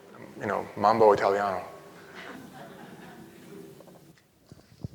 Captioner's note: chuckling